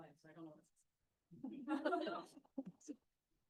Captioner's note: laughter